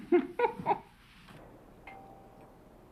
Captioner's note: doorbell